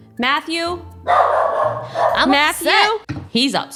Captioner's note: Matty barking